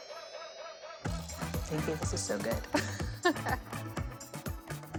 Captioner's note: laughing